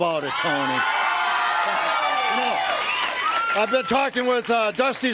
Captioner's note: crowd cheering